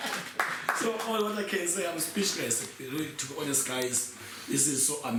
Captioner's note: clapping